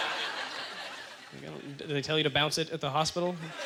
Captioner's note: audience laughter